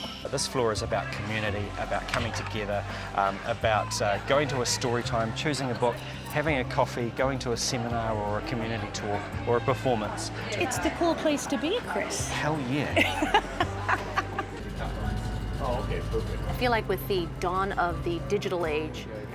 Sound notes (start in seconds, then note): 12.8 chuckles